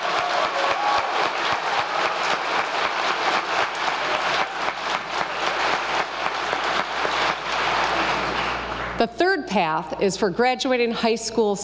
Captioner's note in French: applause